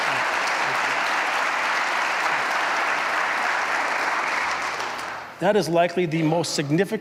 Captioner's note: applause